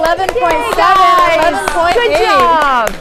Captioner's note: crowd clapping